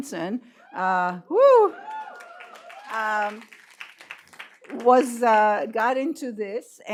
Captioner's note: applause